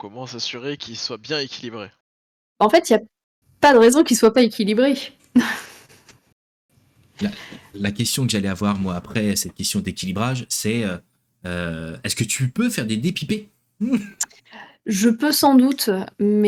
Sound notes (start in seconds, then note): 5.4 laughs